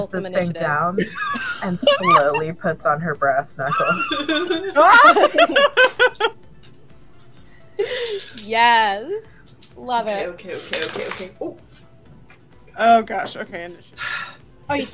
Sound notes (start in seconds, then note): 4.1 laughter and clapping; 10.6 dice rolling